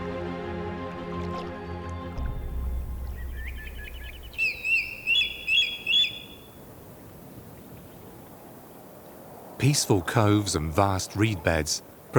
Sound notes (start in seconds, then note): 0.0 gentle music; 2.7 bird calls